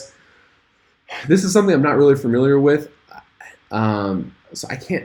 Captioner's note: sighs